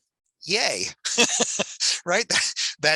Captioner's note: chuckles